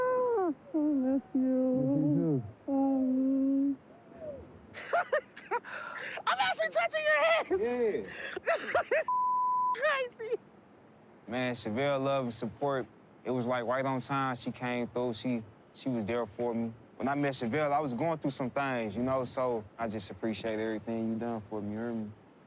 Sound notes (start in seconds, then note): 4.7 laughs